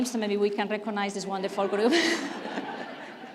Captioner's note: laughs